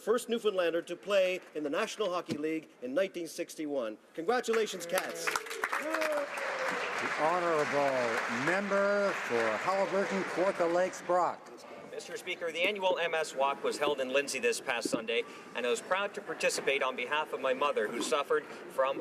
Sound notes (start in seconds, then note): 9.4 some Applause